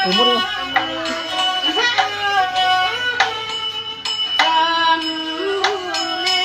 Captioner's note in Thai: ปรบมือ